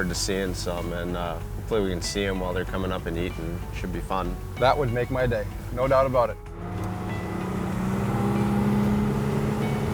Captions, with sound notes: - Yeah, I'm looking forward to seeing some, and we're gonna see 'em while they're coming up and eating, should be fun. - That would make my day, no doubt about it. (boat motor)